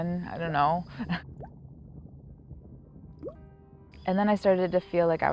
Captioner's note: water drips